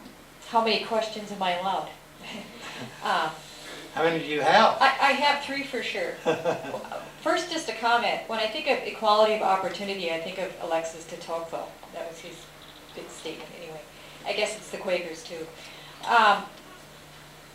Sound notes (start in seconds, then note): 2.2 laughter; 6.1 laughter